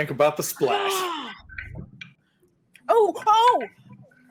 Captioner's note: gasps